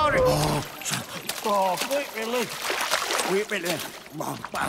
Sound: water splashing

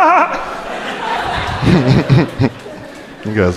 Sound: crowd laughing

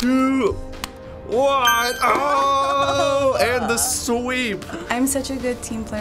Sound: ding!

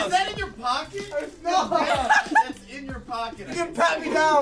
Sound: laughs

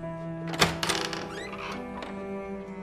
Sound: door opening

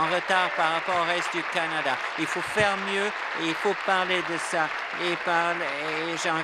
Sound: applause

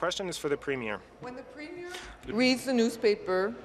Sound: speaking in French

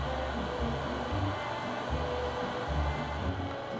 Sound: none

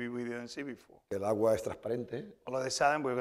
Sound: speaking spanish

